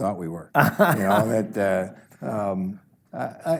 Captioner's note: laughs